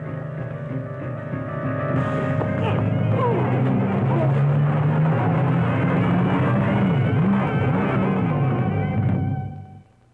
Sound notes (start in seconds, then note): 2.3 men grunting